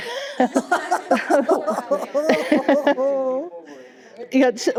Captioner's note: laughter